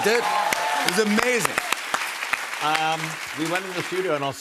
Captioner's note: cheers and applause